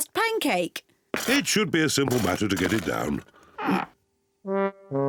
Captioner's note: grunts